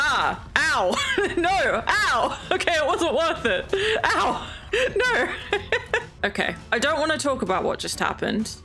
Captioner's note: laughs